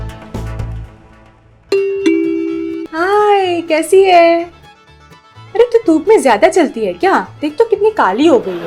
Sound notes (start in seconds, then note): 1.7 door Bell Rings